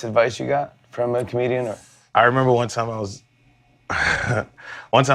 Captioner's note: laughs